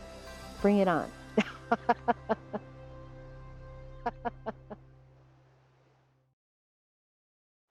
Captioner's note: laughing